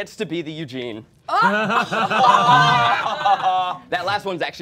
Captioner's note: all laughing